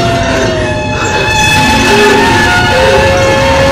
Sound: Merce panting

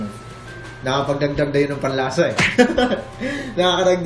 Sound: laughs

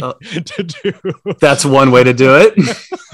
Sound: laughing

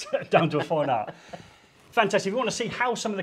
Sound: chuckles

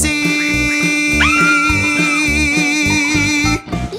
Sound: screaming

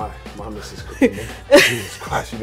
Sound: laughing

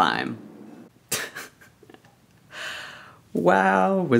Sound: laughs

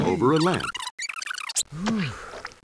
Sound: video squeaking

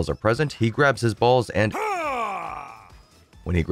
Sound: grunter

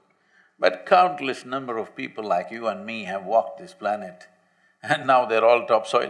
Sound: laughs

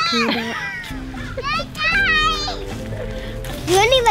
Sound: giggling; soft music

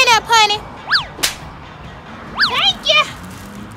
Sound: hands slapping

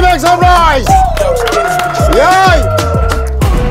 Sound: sound of cheering

